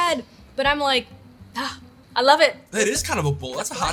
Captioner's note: groans